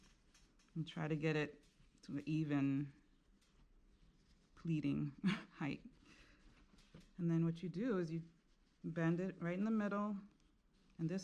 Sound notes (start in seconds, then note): 5.2 chuckles